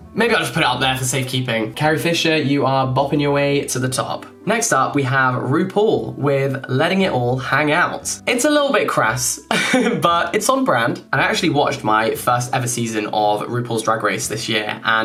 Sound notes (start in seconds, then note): 9.6 laughing